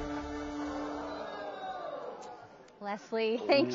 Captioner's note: audience gasping